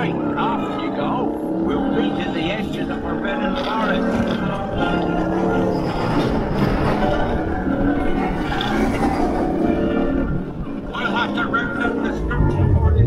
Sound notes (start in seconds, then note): 5.7 engine revving; 5.7 orchestral music